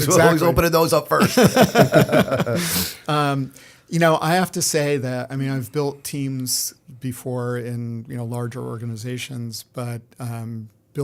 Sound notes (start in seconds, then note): 1.2 laughter